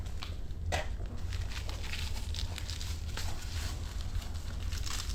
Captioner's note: velcro crackles